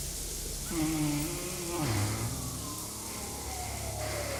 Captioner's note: animal-like sound